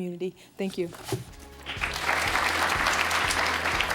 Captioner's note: applause